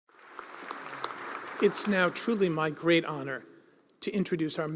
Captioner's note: applause